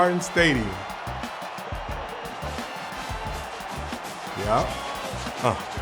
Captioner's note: fans cheering